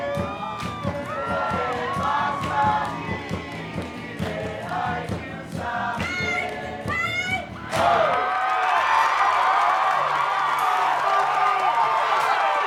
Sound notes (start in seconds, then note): 6.8 cheering, applause; 10.5 uplifting music